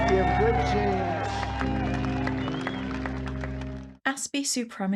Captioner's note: applause